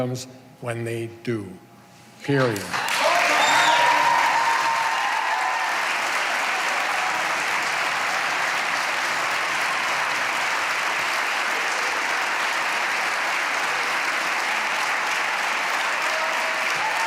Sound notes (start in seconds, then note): 5.0 applause